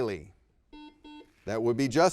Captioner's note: buzzer beeps